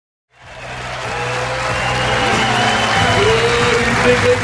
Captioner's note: audience applauds